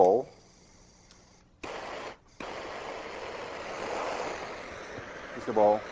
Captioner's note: flame whooshing